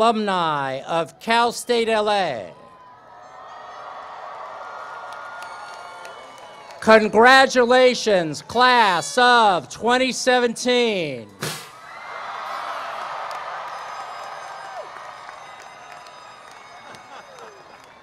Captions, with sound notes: - GRADUATES, YOU ARE ALL NOW PROUD ALUMNI OF CAL STATE LA. [CHEERS AND APPLAUSE] - CONGRATULATIONS,